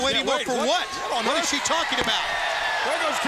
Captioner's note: crowd clamoring